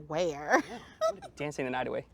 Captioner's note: laughs